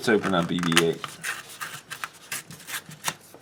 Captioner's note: tearing sound